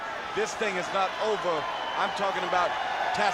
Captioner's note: crowd clamoring